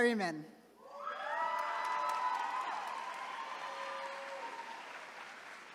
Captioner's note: attendees cheering